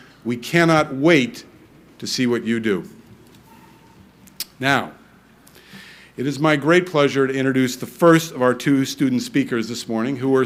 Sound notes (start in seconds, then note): none